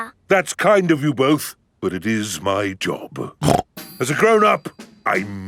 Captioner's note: snorts